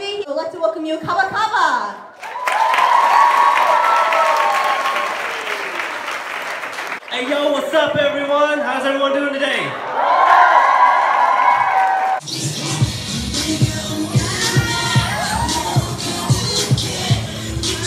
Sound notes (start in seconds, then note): 5.1 applause; 9.6 crowd cheers